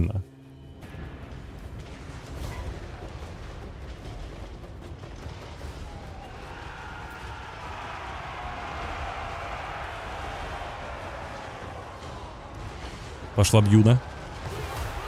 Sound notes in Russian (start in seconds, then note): 12.3 ликование